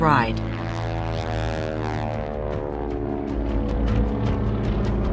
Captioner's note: airplane engine roaring; upbeat music